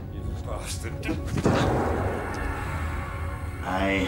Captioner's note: Martin thudding